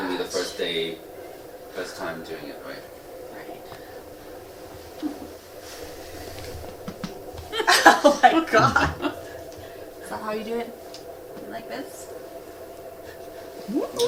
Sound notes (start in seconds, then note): 8.3 laughing